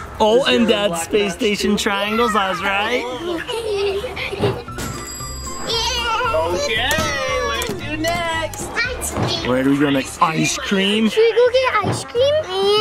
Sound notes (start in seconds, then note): 2.0 kids laugh; 4.6 bell dings